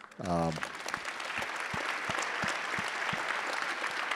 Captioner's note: attendees applauding